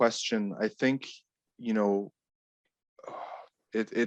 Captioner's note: sighs